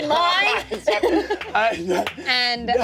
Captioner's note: everyone laughs